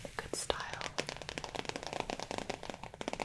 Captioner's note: tapping